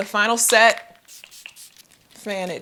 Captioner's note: spray hisses